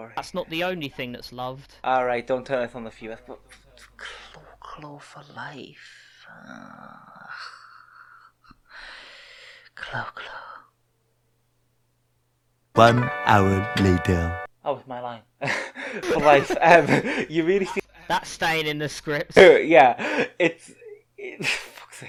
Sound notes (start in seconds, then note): 15.4 both laugh